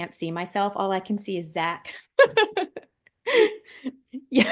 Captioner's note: laughing